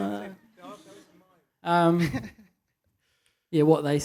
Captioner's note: laughs